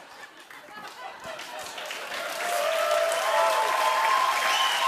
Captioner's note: cheers and applause